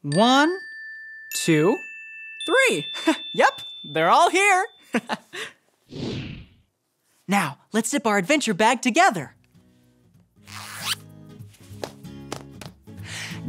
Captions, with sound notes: One, two, three. Yep! They're all here. (laughs) Now, let's zip our adventure bag together. (bag zips)